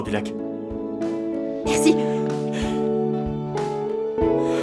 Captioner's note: chuckling